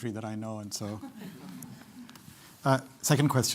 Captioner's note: laughter